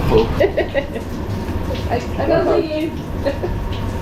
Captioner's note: laughs